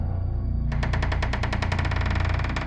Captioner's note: door creaking